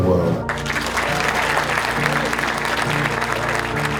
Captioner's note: clapping